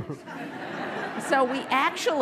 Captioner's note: laughter